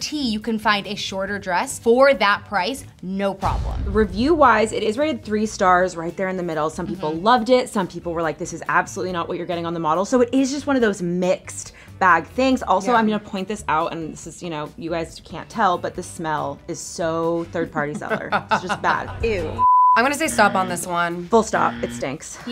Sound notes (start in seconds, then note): 17.9 chuckles